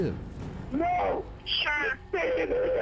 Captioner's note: on phone